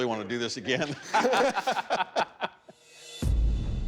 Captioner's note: laughter